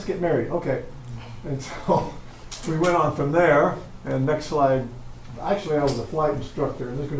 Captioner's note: chuckle